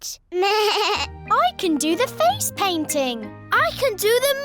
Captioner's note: bleats